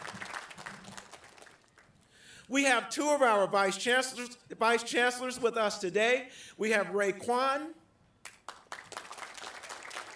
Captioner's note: applause